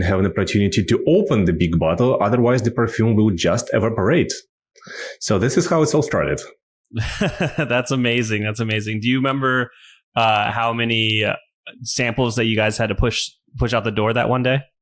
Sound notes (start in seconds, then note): 6.9 laughs